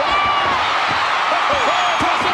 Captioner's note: audience cheering